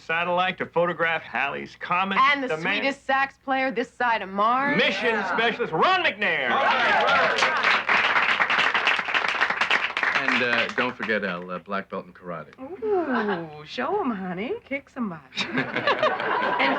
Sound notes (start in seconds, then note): 6.6 applauding